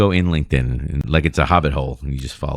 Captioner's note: uh